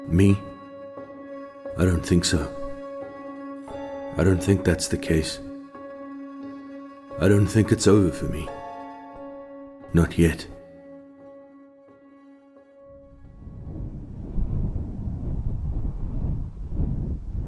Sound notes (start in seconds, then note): 13.3 wind rustling